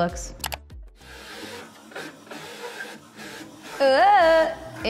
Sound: printer printing

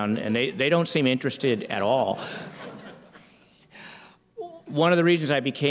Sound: laughter

